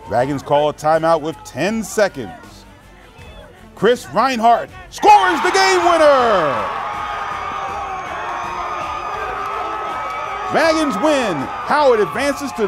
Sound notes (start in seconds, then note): 8.9 cheers